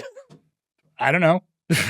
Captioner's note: laughs